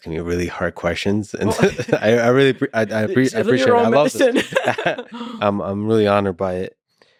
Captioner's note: speaking faintly